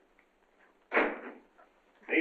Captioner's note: door slams